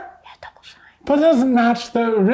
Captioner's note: whispering